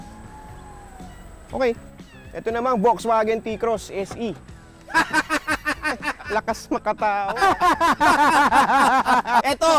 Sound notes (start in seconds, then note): 4.8 laughing; 7.7 both laughing